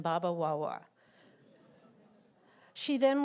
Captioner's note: laughter